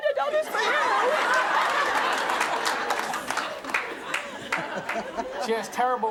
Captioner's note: audience laughing applauding